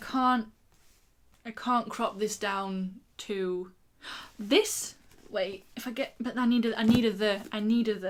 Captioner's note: gasp